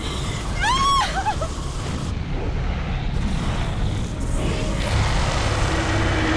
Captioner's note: Connie screams; fire blazes